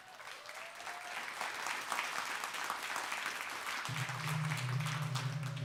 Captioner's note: clapping